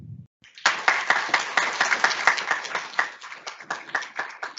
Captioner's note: audience applauds